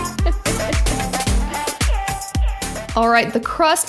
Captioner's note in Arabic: تضحك